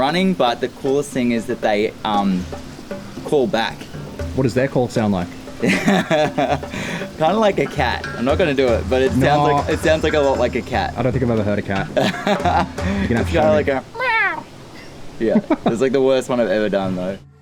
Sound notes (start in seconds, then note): 5.6 laughs; 11.9 laughs